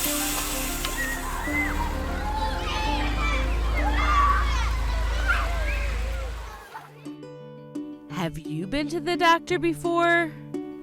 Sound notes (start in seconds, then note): 0.0 air hisses; 0.7 children chattering; 2.1 bus engine rumbles; 6.9 light upbeat music